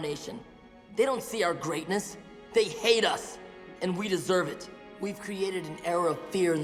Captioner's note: none